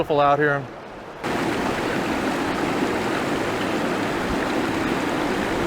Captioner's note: sound of Water